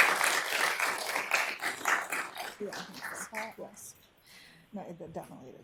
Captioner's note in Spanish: Aplausos